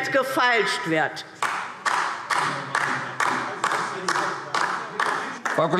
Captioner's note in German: Beifall DIE LINKE - Zurufe CDU und BÜNDNIS 90/DIE GRÜNEN